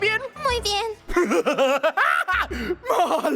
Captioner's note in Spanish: Risa siniestra